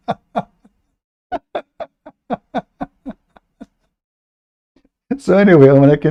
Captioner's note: Ketawa